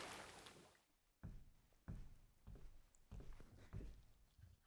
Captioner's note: footsteps approaching